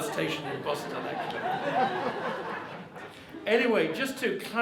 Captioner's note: audience laughing